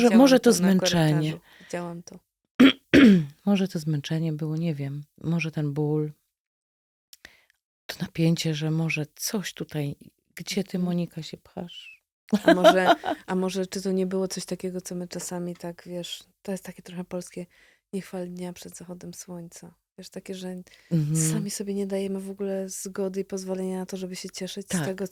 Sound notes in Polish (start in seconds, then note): 2.6 kaszel; 12.3 śmiech